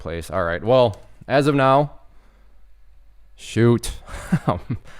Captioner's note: chuckles nervously